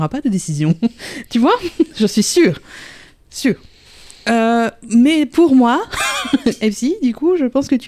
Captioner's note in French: rire